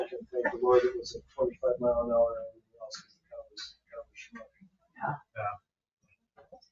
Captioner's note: speaking distantly